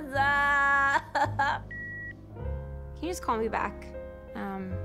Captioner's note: line beeps